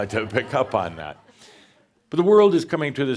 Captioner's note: more chuckles